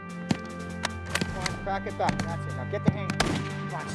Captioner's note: voiceover